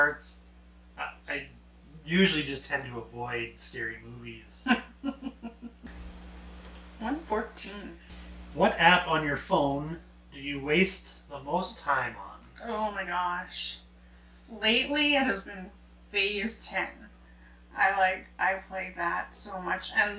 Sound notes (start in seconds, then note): 4.6 laughs